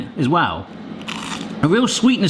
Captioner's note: onion ring crunching